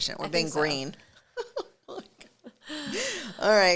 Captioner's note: laughing